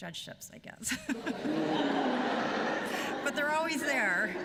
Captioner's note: laughter